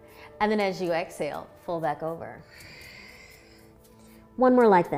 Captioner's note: exhaling